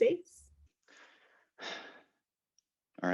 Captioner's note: sigh